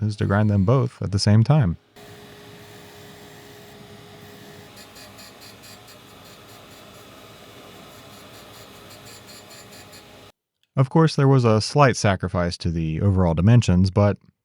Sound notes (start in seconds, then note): 2.2 machinery whirring